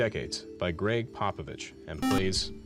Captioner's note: beep